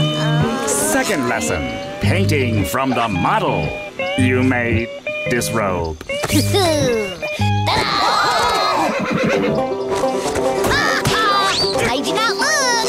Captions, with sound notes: Second lesson. Painting from the model. You may disrobe. [chuckles] Ta-da! Ha ha! Made ya not look!